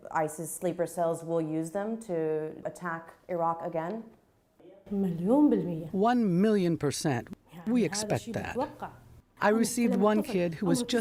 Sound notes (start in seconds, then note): 5.3 through translator